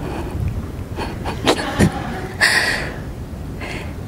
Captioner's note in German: Fragende lacht